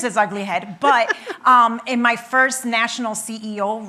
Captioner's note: laughing